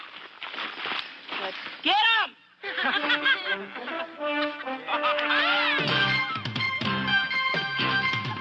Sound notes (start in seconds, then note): 2.6 laughing; 5.6 upbeat music